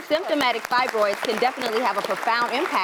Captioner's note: applause